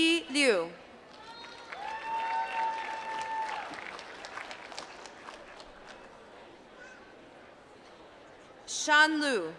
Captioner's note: applause